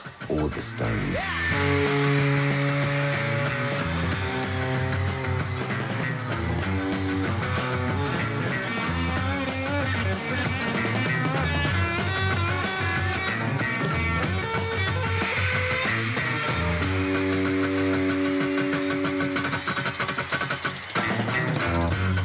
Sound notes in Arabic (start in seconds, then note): 9.7 صراخ الفتيات; 14.7 الفتيات يصرخن بصوت عالي